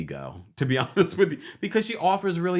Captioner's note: chuckles